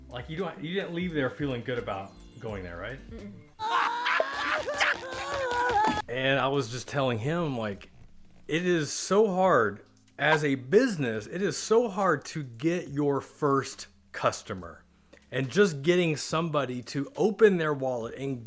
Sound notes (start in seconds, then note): 3.6 animated characters laughing